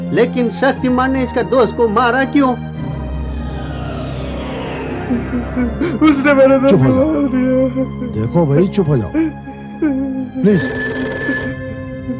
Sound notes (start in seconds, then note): 5.0 sobbing; 10.5 phone ringing